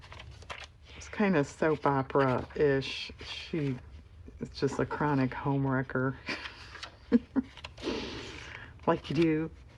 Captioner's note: laughs